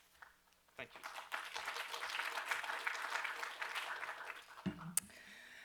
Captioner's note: applause